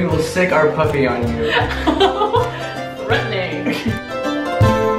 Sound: laughing

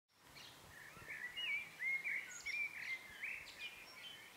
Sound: birds chirping

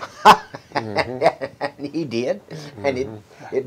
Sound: laughs

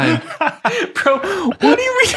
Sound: laughing

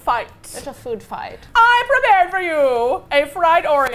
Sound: dramatically

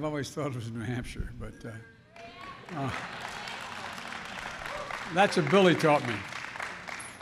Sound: applause

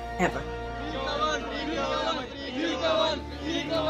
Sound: chanting

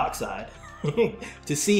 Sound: laughs

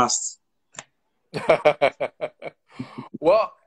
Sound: laughs

